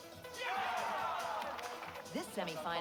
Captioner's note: crowd cheering